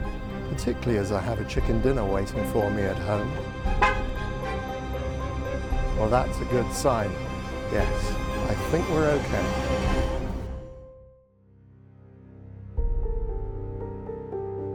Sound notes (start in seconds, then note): 2.5 horn honking; 11.5 suspenseful music